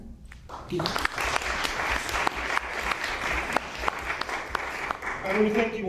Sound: applause

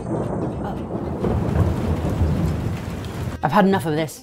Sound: rain patters

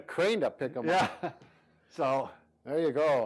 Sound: chuckles

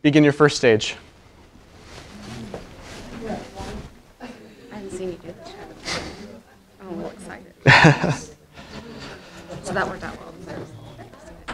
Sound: whispering

